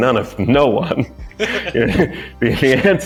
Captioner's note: people laughing